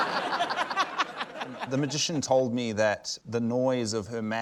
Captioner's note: laughter